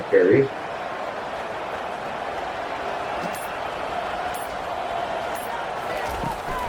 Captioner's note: crowd Noises